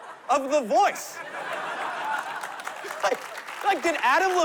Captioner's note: laughter